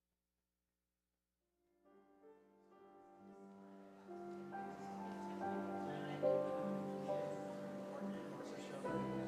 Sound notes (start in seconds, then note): 1.8 gentle piano music; 3.9 people chattering